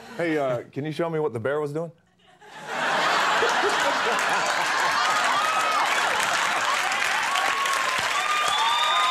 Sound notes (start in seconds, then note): 2.4 audience laughing and cheering